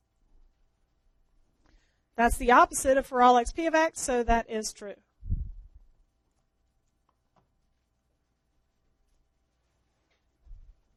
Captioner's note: long pause